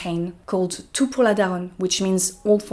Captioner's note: speaking in French